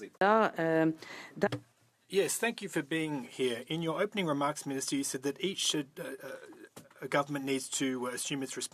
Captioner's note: speaking French